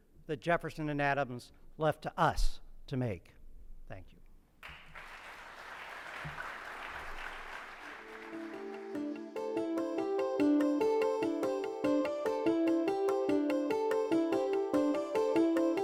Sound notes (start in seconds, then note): 4.6 audience applauds; 7.8 upbeat music